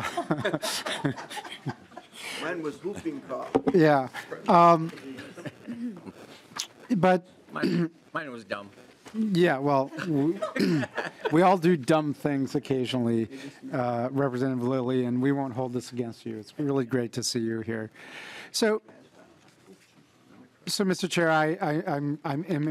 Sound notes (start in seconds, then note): 9.9 laughing